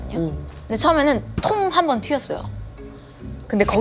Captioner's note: humidifier